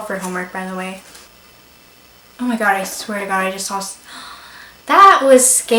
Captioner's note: gasp